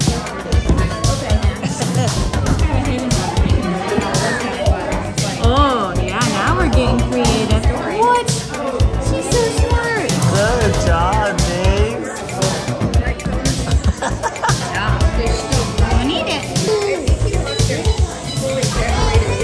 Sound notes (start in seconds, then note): 0.1 upbeat music continues; 13.7 laughs; 15.8 upbeat music continues